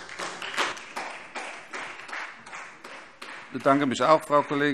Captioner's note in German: Beifall SPD